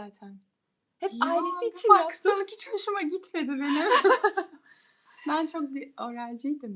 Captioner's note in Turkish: kahkaha